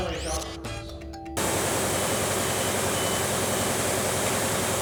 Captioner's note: machinery humming